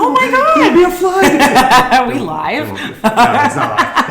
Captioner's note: laughs